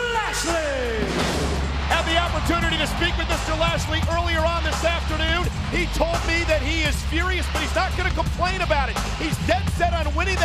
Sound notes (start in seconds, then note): 0.8 fireworks exploding